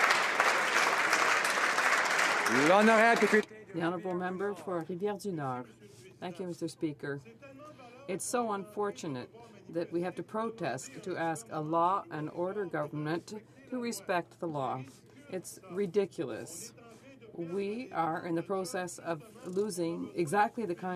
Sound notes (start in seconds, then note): 0.0 applause; 5.6 speaking French